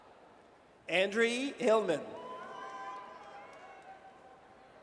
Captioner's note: audience cheers